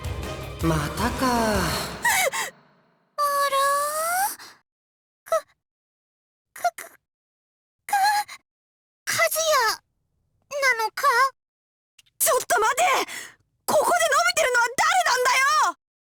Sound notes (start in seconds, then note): 1.2 panicked gasp